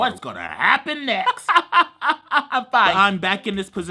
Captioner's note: laughs